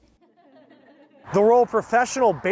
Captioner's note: people laugh